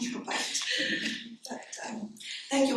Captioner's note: audience laughing